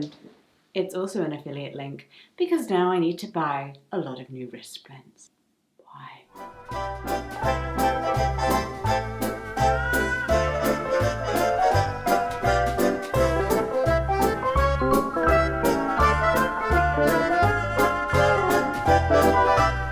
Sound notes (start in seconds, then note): 6.2 whispering; 7.7 cheerful jazz music